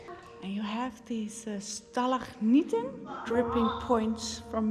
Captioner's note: speaks foreign language